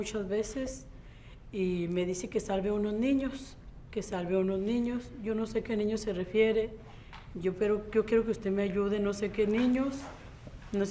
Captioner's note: speaks in Spanish